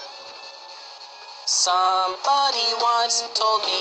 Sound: Keemstar sound

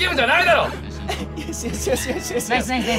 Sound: quietly

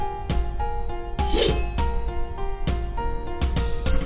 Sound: sword swings

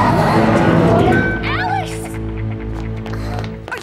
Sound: both gasp

